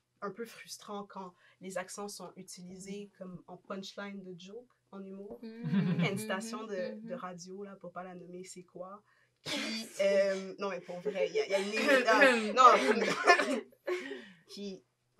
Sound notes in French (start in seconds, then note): 9.7 rires; 12.7 rires; 12.7 faux toussotement